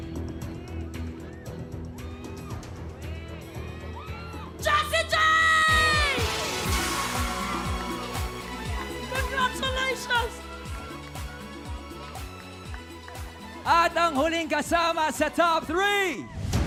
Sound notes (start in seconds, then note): 0.3 suspenseful music playing; 6.3 audience screaming; 6.3 theme music playing